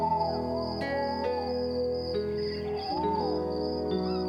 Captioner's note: crickets Chirping